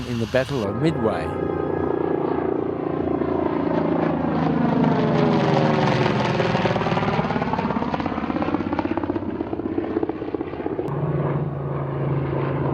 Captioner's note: aircraft sounds